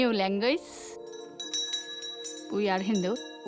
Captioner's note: bell rings